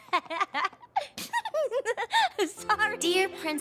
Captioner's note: laughs